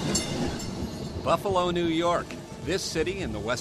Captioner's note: sound of trolley bell passing